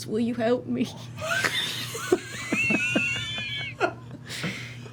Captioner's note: laughter